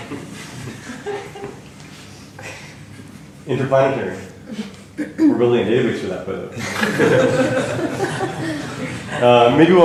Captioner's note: laughter